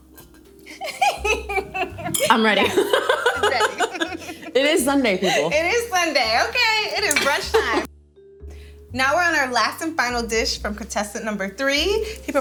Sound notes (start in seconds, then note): 0.7 laughing; 3.6 both laughing